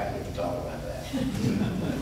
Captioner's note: laughter